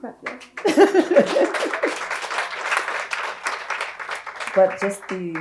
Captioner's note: audience applauding